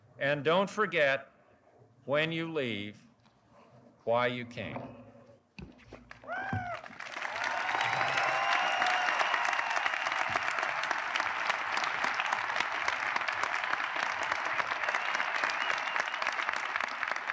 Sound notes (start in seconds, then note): 6.2 cheers and applause